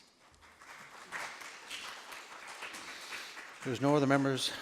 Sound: group applauds

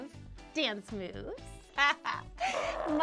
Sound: laughs

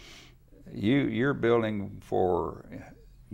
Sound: laughs

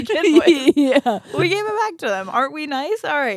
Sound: laughs

